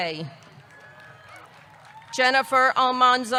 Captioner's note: audience clapping; audience cheering